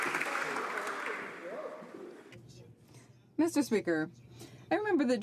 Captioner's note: some applause